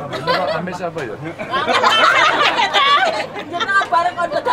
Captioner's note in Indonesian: tertawa